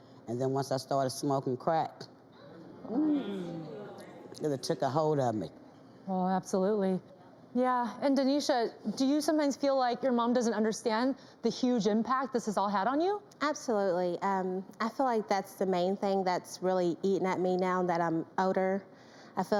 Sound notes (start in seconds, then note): 2.4 audience gasping